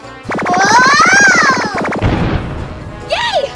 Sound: zapper whirring; assistant screaming; assistant booming

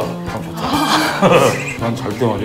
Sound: laughing

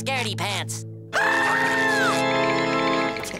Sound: screaming

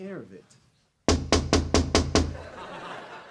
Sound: knocking

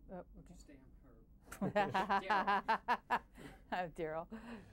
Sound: laughs

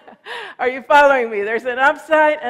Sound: laughs

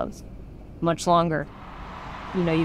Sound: fans cheering

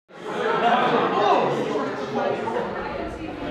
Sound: people talking

